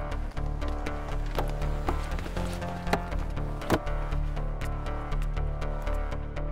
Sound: car door opens and closes

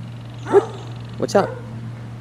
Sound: dog barking

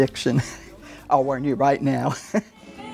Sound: laughter

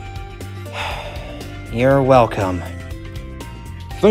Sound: sighs

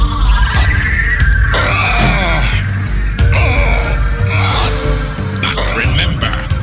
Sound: sounds of pain

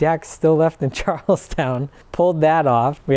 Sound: laughs

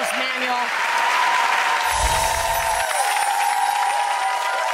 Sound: audience cheers

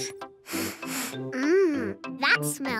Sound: sniffs

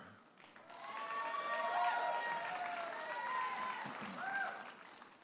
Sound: audience applauding and cheering

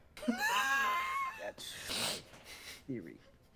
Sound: laughs

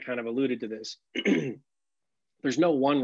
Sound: clears throat

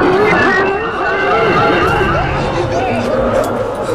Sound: Dao screams; eerie howling

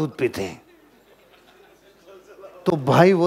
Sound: laughing

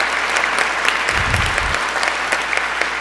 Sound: applause

